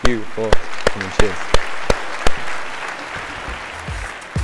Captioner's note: audience applauding